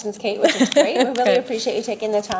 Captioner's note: laughing